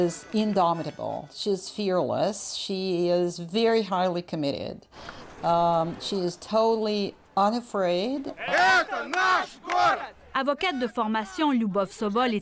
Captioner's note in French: slogans en russe